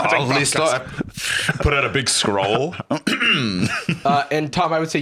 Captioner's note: clears throat